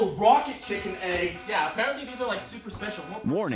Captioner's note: urgent alert sounds